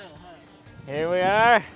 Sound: speaks in foreign language

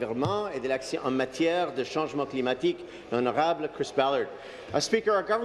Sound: speaking in French

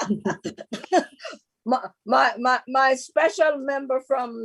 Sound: laughs

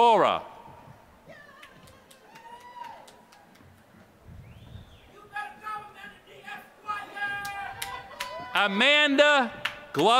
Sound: applause

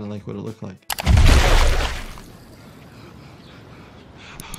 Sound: blood rumbles

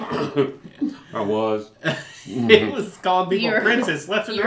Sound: laughs

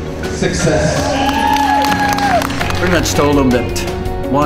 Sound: cheering

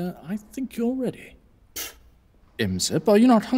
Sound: Imsep spits

